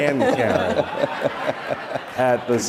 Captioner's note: audience laughter